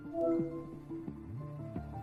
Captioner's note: computer chimes